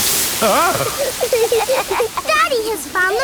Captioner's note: laughing